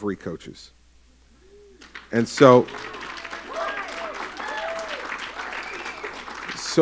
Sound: applause and cheering

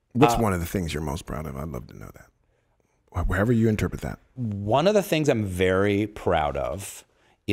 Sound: none

